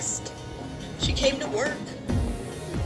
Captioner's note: on TV